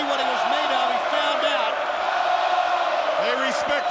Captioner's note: crowd chants